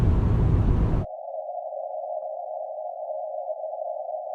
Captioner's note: wind whistling